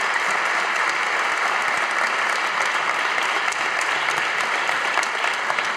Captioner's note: audience applauding